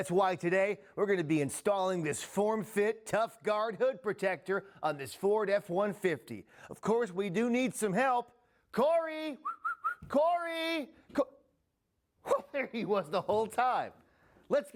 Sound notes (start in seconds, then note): 9.4 whistles